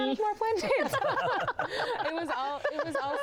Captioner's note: laughter